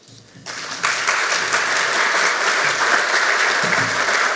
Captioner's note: audience applauds